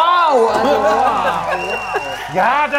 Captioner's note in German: Jubel